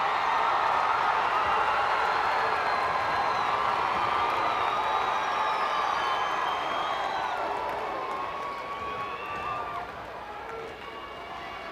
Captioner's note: crowd cheering